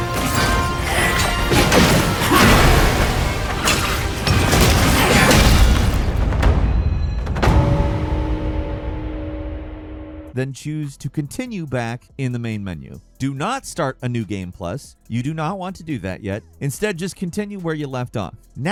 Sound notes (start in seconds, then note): 0.3 dramatic music; 2.8 swords clanking